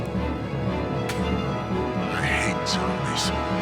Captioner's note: spits